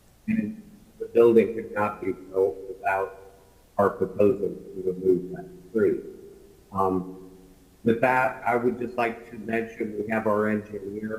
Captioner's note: ~audio distortion~